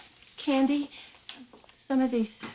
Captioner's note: none